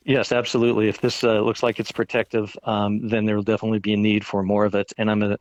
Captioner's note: none